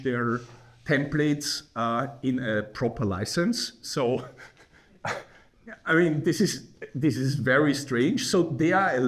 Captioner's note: chuckles